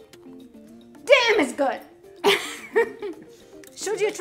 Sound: upbeat music; laughs

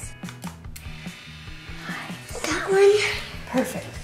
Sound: camera snaps

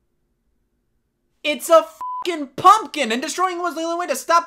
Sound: beep

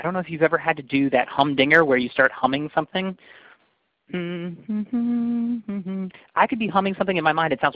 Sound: humming

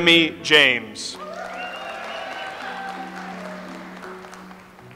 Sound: audience applauds

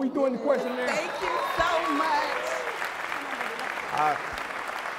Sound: applause

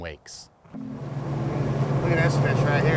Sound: boat engine running

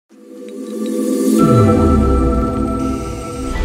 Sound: logo whooshing

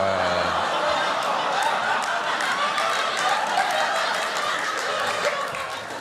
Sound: laughter

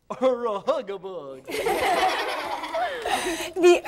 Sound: laughter

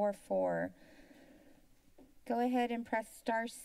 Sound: silence

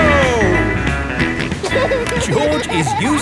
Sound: snorts and laughs

